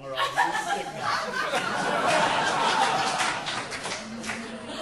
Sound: audience laughing

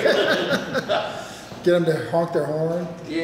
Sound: laughing

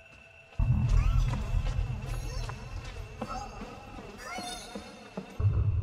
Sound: ghost grunts

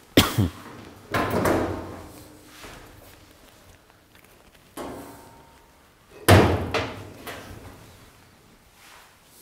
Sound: opening and closing cabinet doors

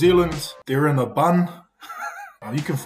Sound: laughs

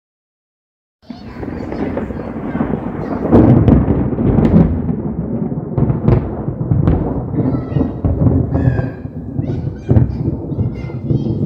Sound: super loud thunder crackles

